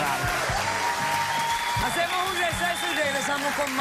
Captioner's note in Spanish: aplausos